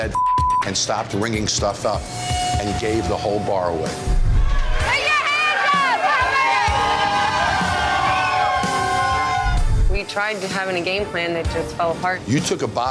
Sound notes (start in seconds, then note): 7.3 crowd cheering